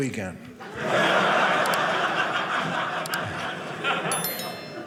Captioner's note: audience laughing